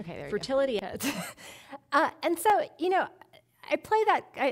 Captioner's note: chuckling